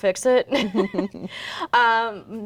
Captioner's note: both laughing